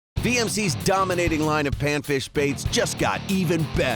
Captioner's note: voiceover